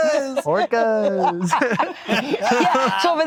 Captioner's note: all laughing